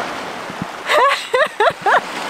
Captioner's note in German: Lachen